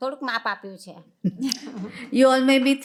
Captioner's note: chuckles